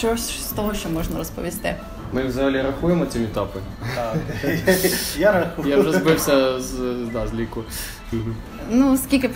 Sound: laughs

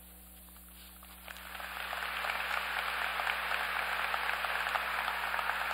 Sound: applause

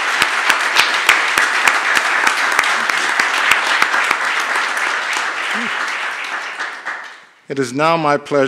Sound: applause

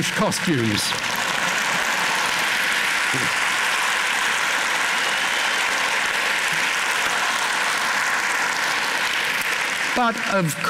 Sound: applause

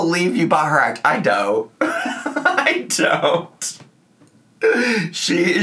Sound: laughs

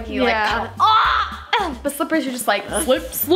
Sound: screams playfully

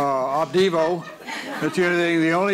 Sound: audience laughs

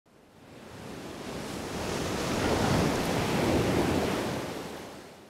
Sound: waves crashing

